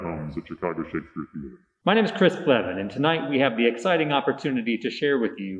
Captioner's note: in a distorted voice; in his normal voice